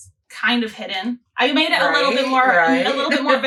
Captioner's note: laughs